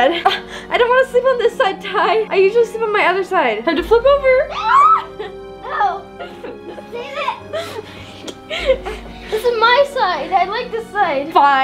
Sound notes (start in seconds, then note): 4.4 kids screaming